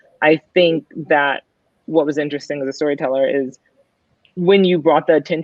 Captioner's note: none